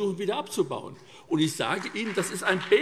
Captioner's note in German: Beifall SPD und vereinzelt BÜNDNIS 90/DIE GRÜNEN